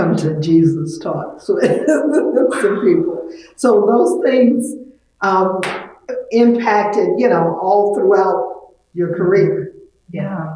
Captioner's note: laughs